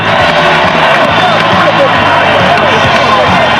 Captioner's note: crowd cheering